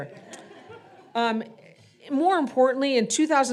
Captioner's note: audience laughing